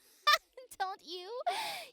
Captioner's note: laughing